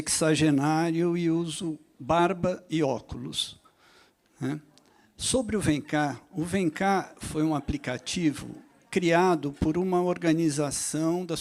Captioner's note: speaks Portuguese